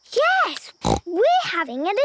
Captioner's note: snort